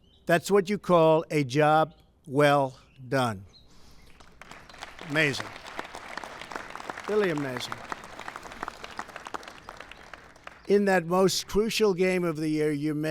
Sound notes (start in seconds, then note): 8.2 applause